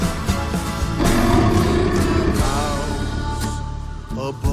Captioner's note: roaring; man singing